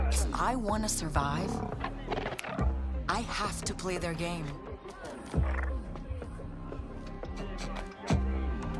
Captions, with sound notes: If I want to survive, [ALIEN BAR CHATTER] I have to play their game. [ALIEN BAR CHATTER]